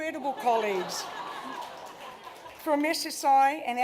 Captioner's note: laughter